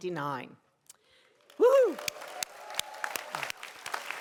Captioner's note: cheering